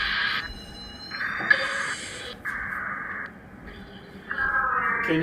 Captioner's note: beeping